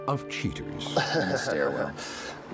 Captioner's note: laughter